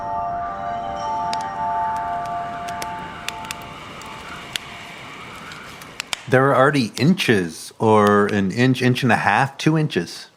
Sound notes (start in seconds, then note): 0.0 wind gusting; 0.0 chimes ringing; 2.7 fireplace crackling